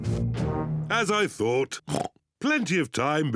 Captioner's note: oinks